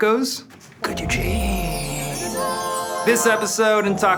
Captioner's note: wind chimes twinkling